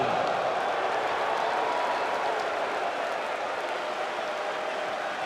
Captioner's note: audience applauds and cheers